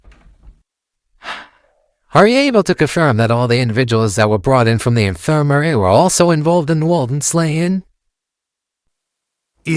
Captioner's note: sighs